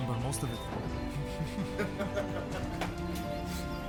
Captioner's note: both laughing